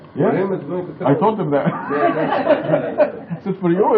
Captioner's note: laughing